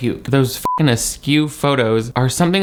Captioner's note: beep